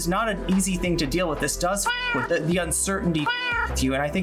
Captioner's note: meow